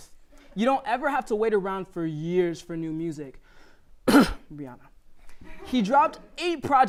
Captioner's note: cough